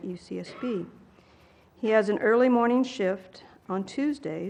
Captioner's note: cough